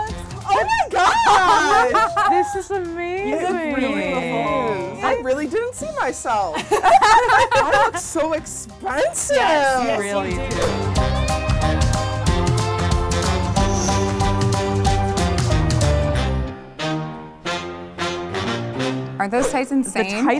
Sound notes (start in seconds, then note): 6.5 laughter; 11.5 haunting horn music